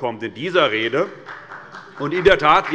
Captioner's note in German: Demonstrativer Beifall des Abg